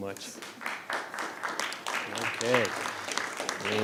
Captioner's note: audience applauding